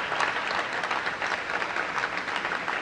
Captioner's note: applause